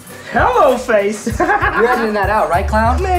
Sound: laughs

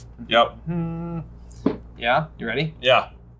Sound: humming

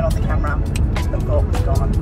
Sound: clicks

